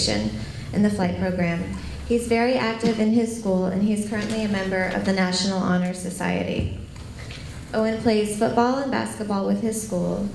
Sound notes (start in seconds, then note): none